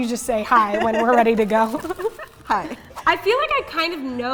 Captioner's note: speaking in Japanese